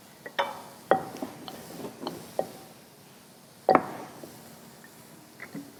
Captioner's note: rolling pin sounds